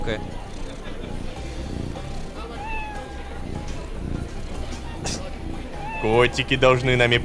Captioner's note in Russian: Мурлыканье и мяуканье